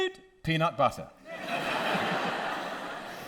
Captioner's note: audience laughter